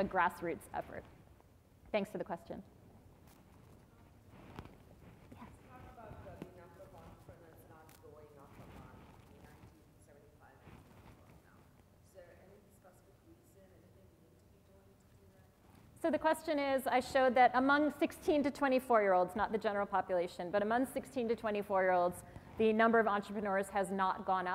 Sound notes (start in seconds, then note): 6.6 off microphone